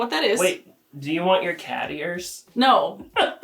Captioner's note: laughs